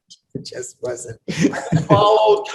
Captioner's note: laughs